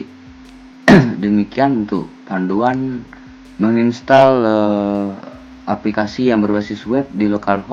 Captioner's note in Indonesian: berdehem